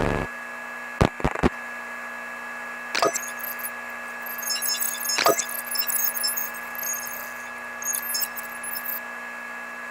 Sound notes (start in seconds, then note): 2.9 computer whirring and beeping